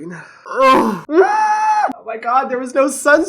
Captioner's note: screams